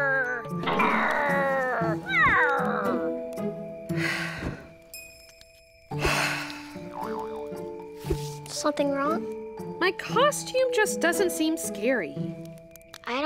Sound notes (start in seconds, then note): 4.4 sighs; 4.9 clinking; 6.3 sighs loudly; 7.2 boong sound